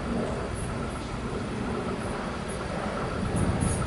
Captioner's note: train approaching